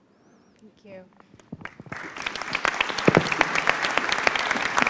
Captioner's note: applause